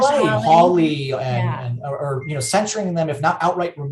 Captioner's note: chattering